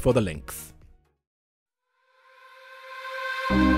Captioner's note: voiceover